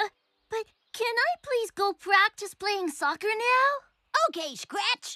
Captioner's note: none